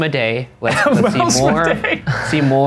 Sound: laughing

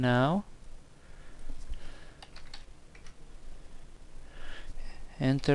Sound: typing

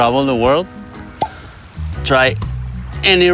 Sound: bottle popping

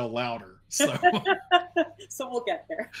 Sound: laughing

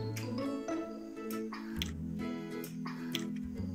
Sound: kissing sound

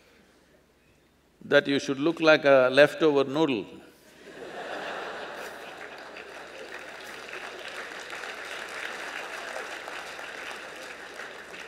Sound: laughter/Applause

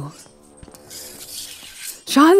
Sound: A battle-horn's blare echoes in the distance, as you quietly unsheath your blade

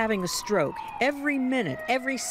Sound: ambulance siren

